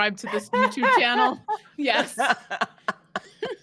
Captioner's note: all laughing